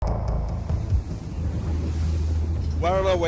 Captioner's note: suspenseful music; ocean rushing